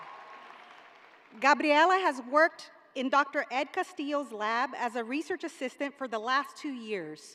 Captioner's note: cheers and applause